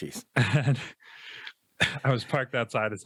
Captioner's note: laughs